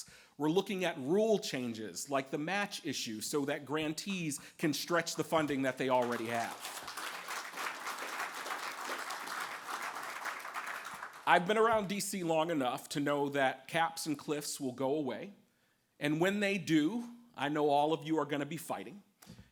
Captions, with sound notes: We’re looking at rule changes, like the match issue, so that grantees can stretch the funding that they already have. [APPLAUSE] I’ve been around DC long enough to know that caps and cliffs will go away, and when they do, I know all of you are going to be fighting